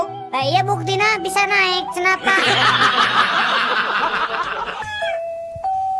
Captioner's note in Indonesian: tertawa